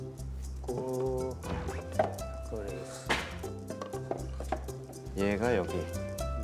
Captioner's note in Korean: 착 착